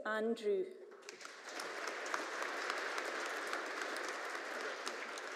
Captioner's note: audience applauding